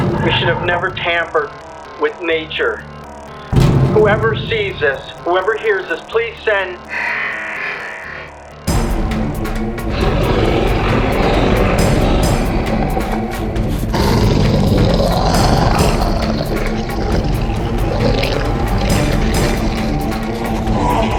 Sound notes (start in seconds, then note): 8.8 creature snarling; 8.8 dramatic music; 14.1 creature growling